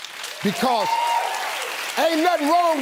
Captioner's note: audience applauds